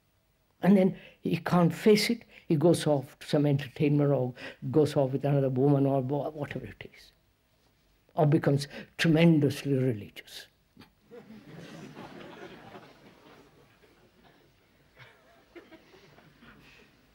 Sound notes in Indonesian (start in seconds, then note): 11.0 Tertawa